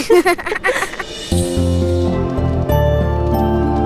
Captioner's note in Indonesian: tertawa